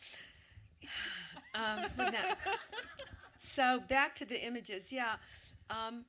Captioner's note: sighs